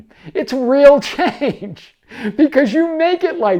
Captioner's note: chuckles